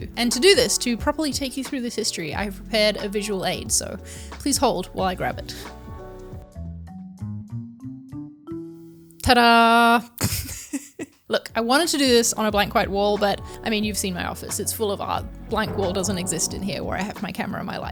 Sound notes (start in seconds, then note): 6.2 laid-back music; 10.2 laughs